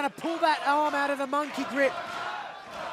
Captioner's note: crowd cheering